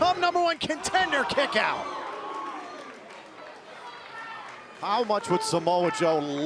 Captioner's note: crowd cheering